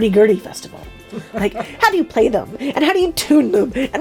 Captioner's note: off screen laughter